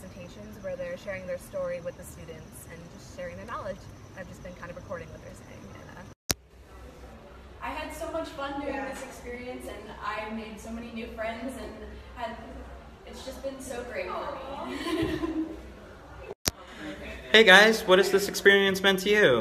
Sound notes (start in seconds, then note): 14.6 laughing